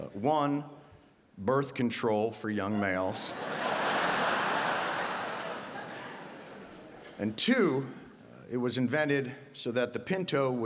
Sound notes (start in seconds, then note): 3.1 audience laughing